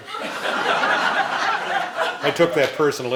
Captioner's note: laughing